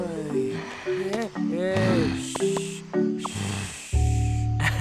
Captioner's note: shushes colt